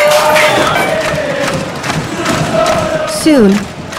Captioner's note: chanting